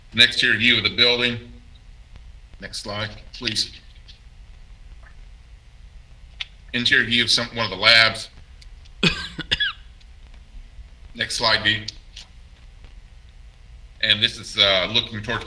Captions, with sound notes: Next is the view of the building. Next slide please. Interior view of some, one of the labs. (coughs) Next slide.